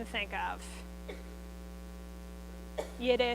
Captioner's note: coughs